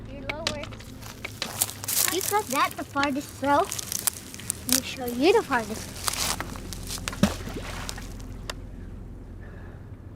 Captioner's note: more rocks plunking in water from above